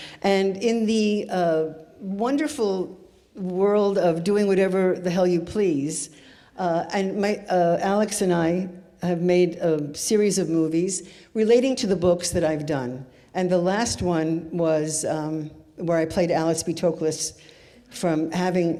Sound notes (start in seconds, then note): none